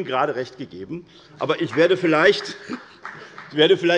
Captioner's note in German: Beifall bei der FDP